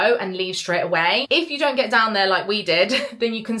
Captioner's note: chuckles